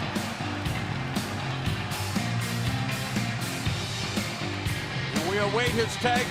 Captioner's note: crowd cheering